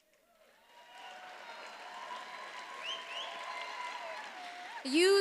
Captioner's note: attendees applauding and cheering